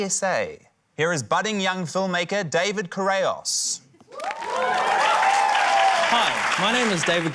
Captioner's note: cheering, applause